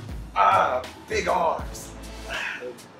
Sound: grunts

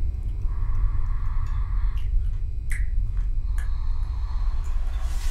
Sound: chewing loudly

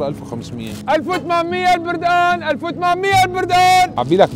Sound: shouting

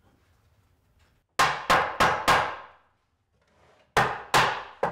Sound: hammer banging

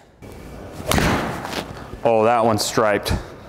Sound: ball hitting screen

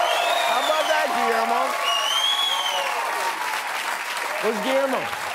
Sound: cheers and applause

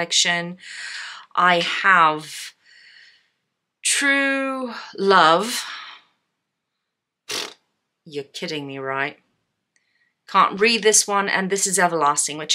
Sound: blows raspberry

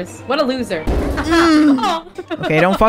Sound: haha- OOHhh!

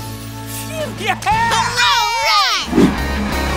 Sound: cheering

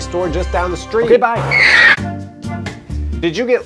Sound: tires squealing

